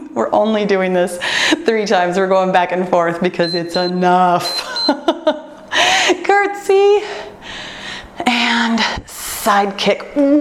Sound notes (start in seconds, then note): 3.4 timer beeps; 4.6 laughs